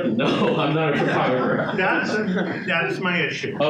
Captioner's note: audience laughing